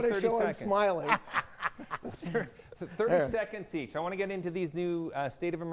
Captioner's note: laughing